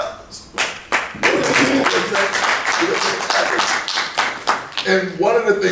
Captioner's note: clapping